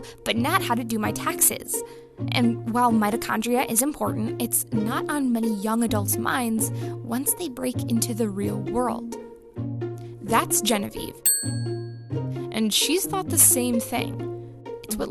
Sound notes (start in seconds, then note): 11.2 bell ringing